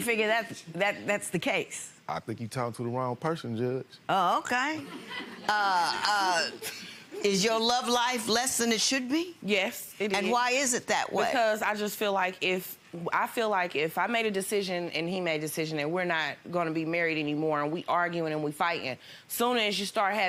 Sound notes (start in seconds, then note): 5.7 audience chuckles